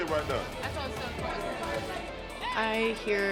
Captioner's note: officers and inmates chattering